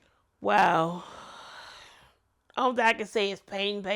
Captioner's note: deep sigh